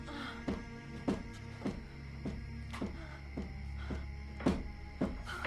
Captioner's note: moaning; bed knocking against the wall